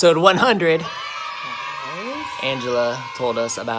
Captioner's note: cheering